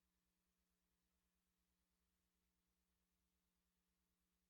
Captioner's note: none